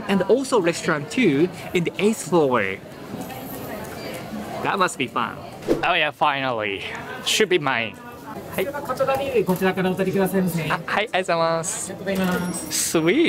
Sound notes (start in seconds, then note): 9.3 staff speaks in japanese